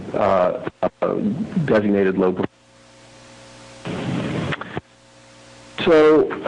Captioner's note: audio cutting in/out